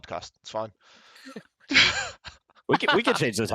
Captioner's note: laughs